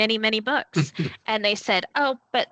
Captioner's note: chuckling